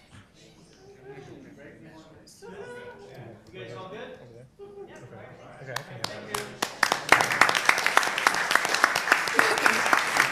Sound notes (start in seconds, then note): 5.7 applause